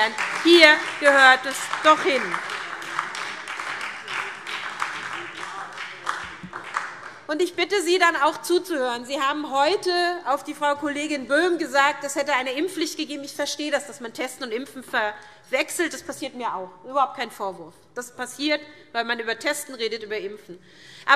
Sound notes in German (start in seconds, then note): 2.4 Beifall SPD